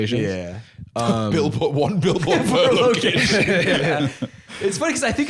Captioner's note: laughing